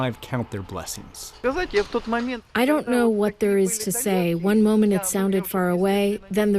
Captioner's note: through translator